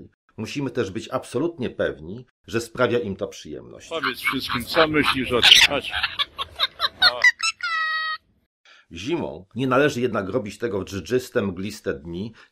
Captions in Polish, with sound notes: Musimy być też absolutnie pewni, że sprawia im to przyjemność. - Powiedz wszystkim, co myślisz o tym. No chodź. [operowy śpiew papugi] Zimą nie należy jednak robić tego w dżdżyste mgliste dni,